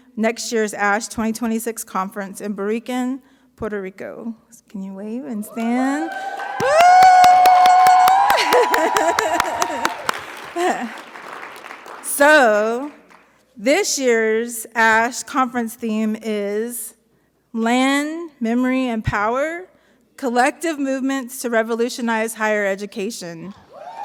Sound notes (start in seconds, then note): 5.4 audience cheering; 8.2 laughs; 8.6 audience applauding; 23.7 audience cheering; 23.8 audience applauding